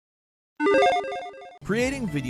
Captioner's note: electronic chiming